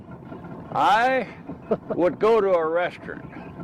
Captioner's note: chuckling